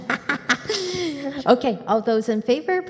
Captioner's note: laughs